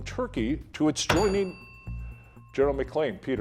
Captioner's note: bell dinging